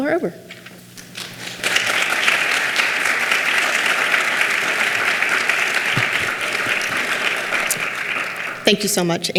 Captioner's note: clapping